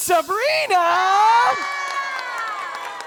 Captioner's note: audience cheering; audience applauding